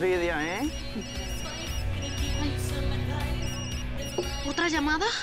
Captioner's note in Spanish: Suena el celular